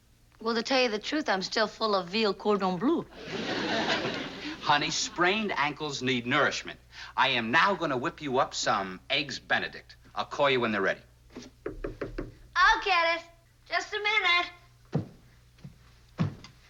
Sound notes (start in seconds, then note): 11.5 knocking